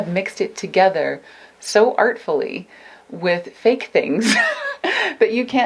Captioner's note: laughs